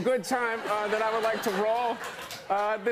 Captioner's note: laughter